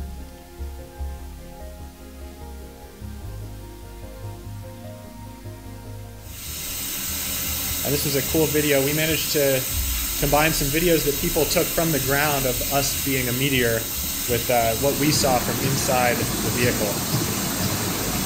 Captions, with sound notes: (slow music) (shuttle burning) And this was a cool video. We managed to combine some videos that people took from the ground of us being a meteor with what we saw from inside the vehicle.